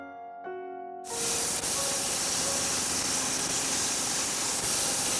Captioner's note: power saw rattling